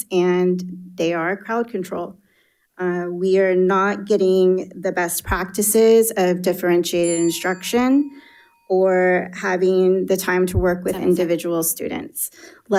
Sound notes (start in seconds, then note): 7.0 bell dings